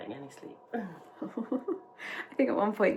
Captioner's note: laughs